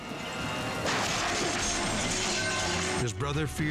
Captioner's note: bike clatters